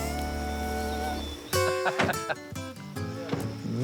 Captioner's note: laughs